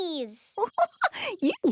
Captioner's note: giggling